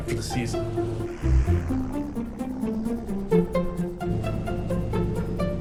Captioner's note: airplane buzzing